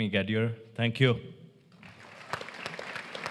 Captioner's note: applause